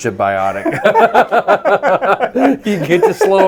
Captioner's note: both laughing